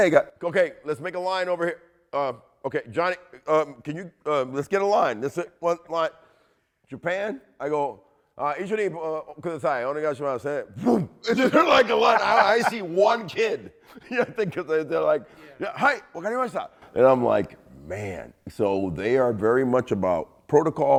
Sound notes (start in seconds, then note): 8.8 speaking in foreign language; 15.5 speaking Japanese